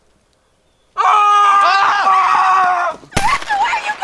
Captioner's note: screaming